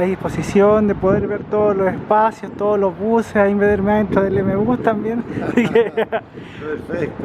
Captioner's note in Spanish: risas